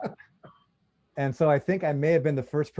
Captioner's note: laughs